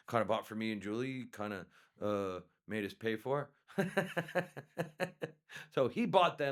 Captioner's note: laughs